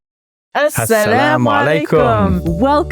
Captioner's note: both speaking in foreign language